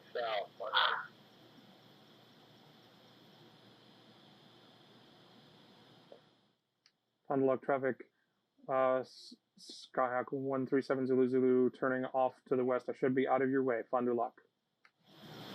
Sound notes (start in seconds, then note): 0.0 radio; 7.4 me on radio